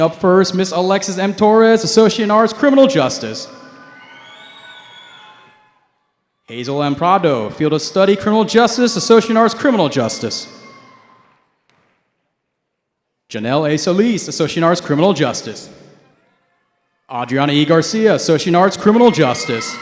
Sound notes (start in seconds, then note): 3.4 cheering; 10.9 cheering; 18.6 cheering